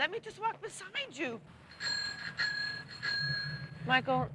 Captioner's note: sounds of air pump